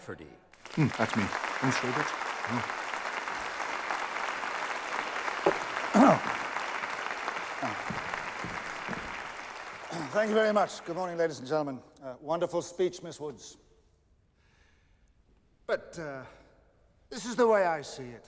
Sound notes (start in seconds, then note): 2.5 all applauding; 5.4 clears throat